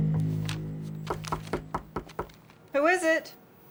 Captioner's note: knocking on door